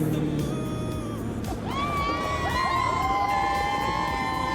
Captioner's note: laughs; cheers